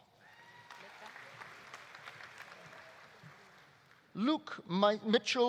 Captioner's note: audience cheering; audience applauding